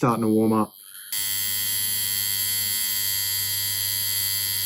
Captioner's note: machine whirring